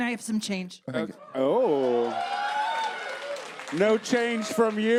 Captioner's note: audience cheers